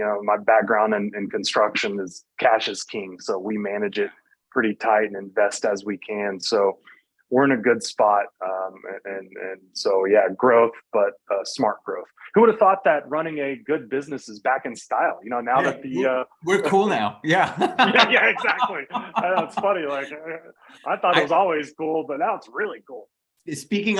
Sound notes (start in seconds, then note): 17.4 both laughing